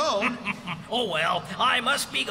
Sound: chuckling

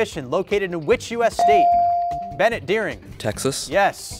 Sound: buzzer pings

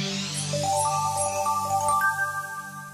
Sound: chiming

